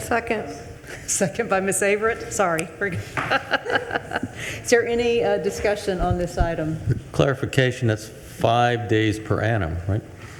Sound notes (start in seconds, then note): 3.4 laughing